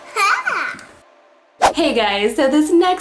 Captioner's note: laughs